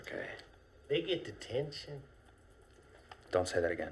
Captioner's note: none